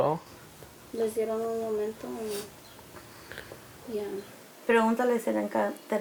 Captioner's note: speaks in foreign language